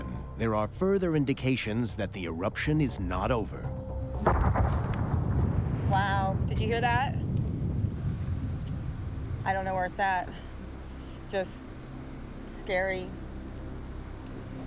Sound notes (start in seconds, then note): 3.8 booming in distance